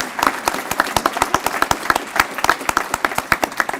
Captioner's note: applause